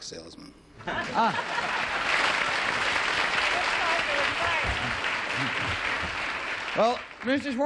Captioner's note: applause